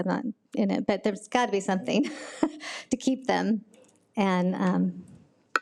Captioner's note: laughs